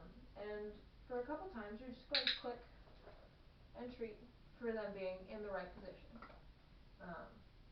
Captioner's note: click